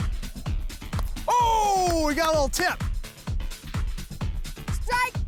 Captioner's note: bat hits ball